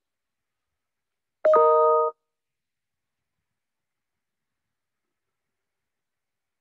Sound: computer notification rings

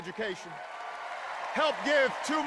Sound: cheers and applause

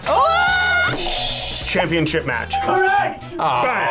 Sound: screams; buzzer rings

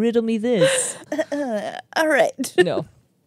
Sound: imitates clearing throat

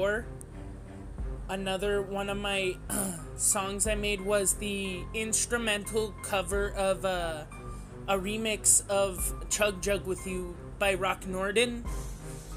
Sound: clears throat

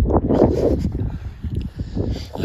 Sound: wind blowing

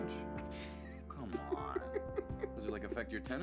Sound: Phillip laughing

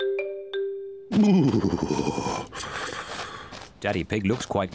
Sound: shivers

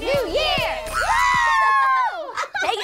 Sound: all cheer

